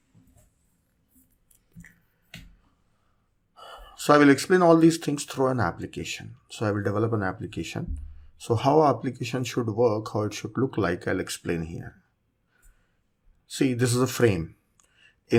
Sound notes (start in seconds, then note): 1.2 computer mouse clicking